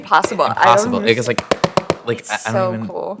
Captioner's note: quick taps